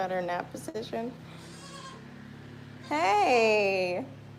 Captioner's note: goat bleats